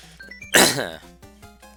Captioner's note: clears throat